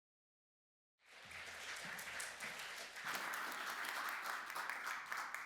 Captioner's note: applause